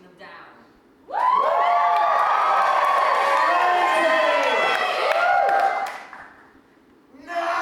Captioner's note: audience cheering, someone shouts SLAY TIMMY